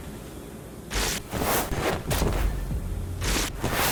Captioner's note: whooshing